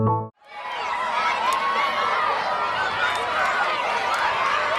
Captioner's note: children chattering